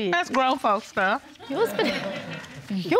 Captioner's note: audience laughing